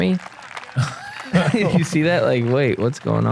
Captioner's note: laughter